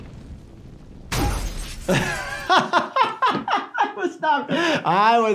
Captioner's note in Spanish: Caída de la máquina arcade; riendo